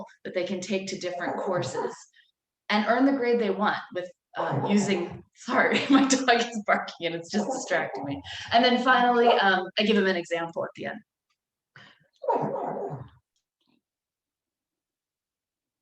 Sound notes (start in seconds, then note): 12.2 dog barking